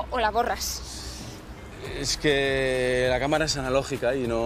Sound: stutters

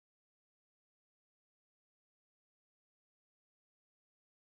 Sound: none

